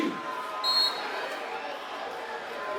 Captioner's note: referee's whistle